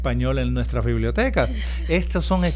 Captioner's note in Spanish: Risas